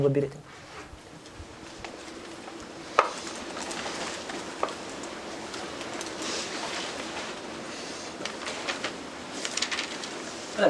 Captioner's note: papers rustling